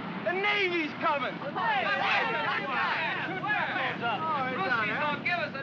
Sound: excited chatter

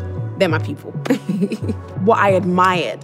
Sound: laughter

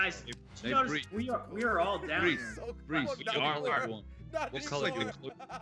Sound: laugh

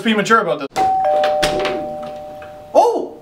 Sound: doorbell

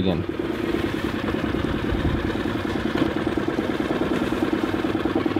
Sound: boat engine humming

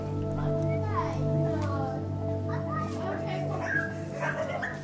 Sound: children chattering

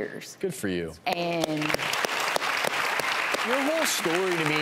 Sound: audience applause

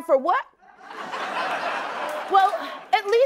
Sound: laughter

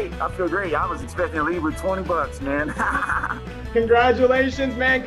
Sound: laughing

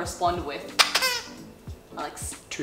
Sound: squeaks

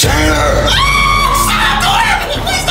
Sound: screaming

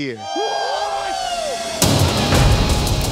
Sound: cheering

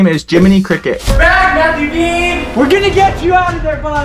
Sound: person screams

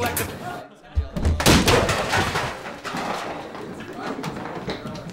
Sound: objects crashing

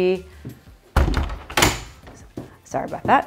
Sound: door clicks shut

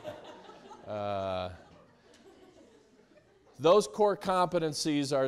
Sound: students laughing

